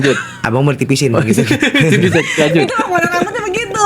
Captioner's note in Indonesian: tertawa